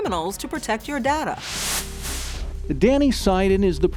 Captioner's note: screen hisses